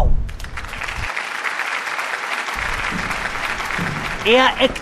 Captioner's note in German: Applaus